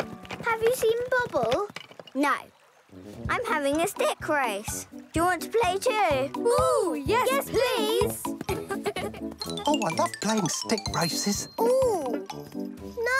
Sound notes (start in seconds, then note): 8.4 giggles